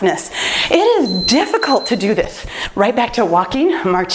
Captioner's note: timer beeps